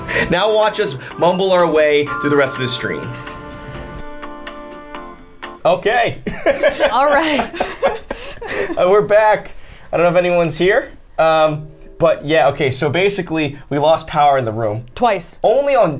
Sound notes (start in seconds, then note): 3.8 upbeat elevator music continues; 6.3 laughs